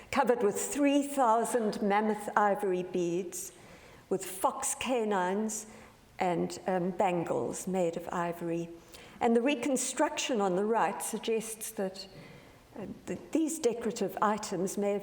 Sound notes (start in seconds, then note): none